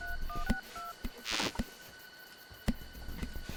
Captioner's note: phone ringing; suspenseful music continues; electricity fizzing; crickets chirping; suspenseful music continues